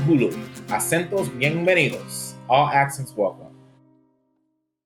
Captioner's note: speaking spanish